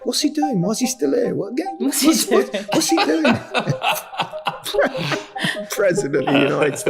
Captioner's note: laughs